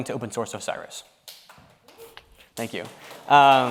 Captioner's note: audience clapping